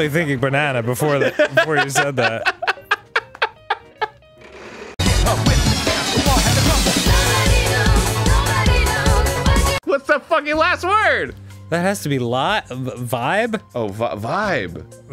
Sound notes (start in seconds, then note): 1.0 laughs